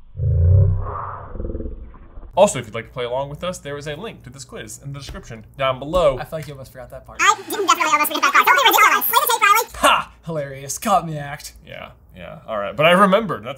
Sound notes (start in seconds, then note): 0.2 voice slowed down; 7.1 voices sped up